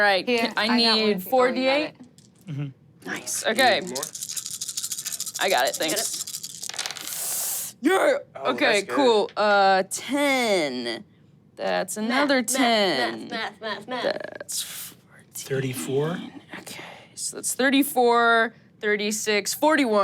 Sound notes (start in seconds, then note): 3.8 dice clinking; 6.1 dice rolling; 12.6 beat-boxing